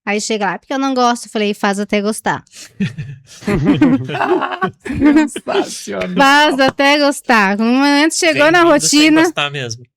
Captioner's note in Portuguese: risadas